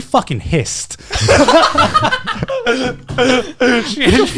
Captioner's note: laughing